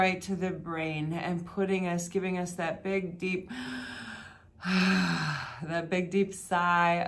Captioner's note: sighing